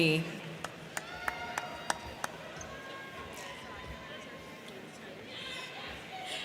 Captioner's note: crowd clapping; crowd cheering